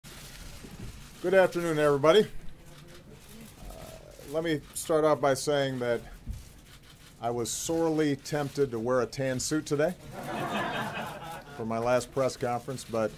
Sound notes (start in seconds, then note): 10.0 laughter